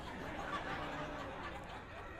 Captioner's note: laughing